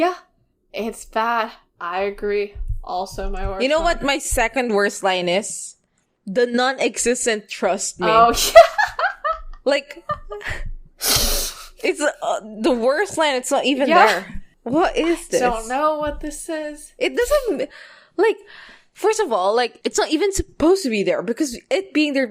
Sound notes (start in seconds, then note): 10.0 laughing